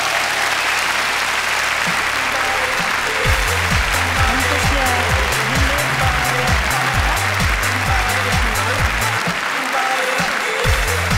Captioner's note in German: Applaus